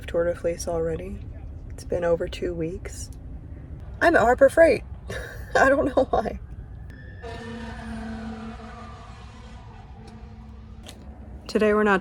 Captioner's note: fire truck sounds